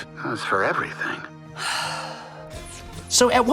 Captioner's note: sighs